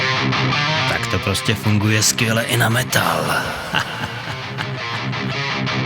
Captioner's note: evil laugh